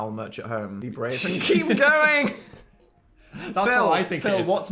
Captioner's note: both laughing